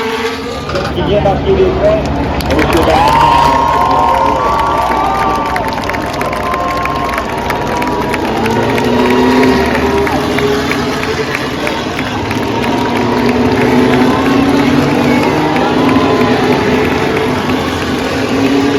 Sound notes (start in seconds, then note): 0.6 cheering and Applause